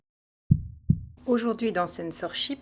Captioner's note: heartbeat